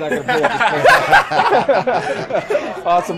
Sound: laughing

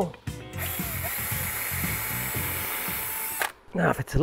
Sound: drill whirring

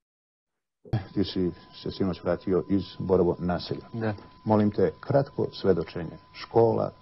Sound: news anchor speaking in foreign language

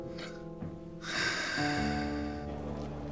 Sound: Mahmud breathing sound

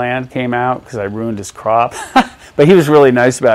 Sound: laughs

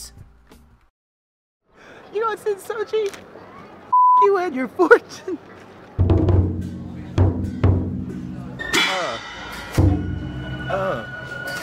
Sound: beep

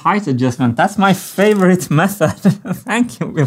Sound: chuckles

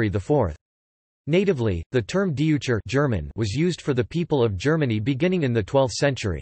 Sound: German

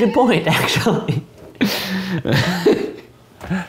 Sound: laughter

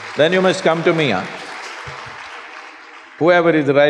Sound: applause

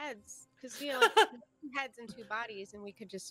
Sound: laughing

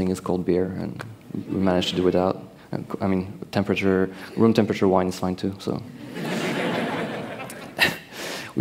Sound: laughter

